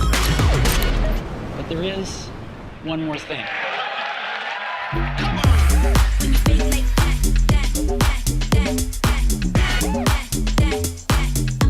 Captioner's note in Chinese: 掌聲